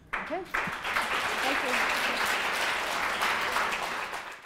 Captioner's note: applause